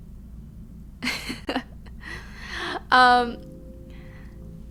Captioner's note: laughing